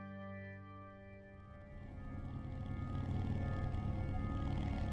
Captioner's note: rv engine chugging